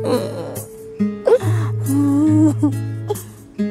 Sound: crying

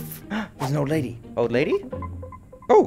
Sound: gasp

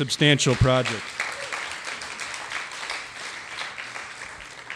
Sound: audience applause

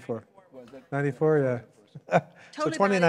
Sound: chuckles

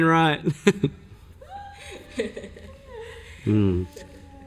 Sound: laugh

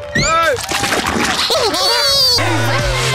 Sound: electronic laughter

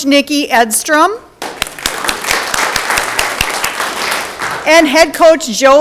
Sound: audience clapping

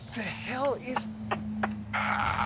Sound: laughs

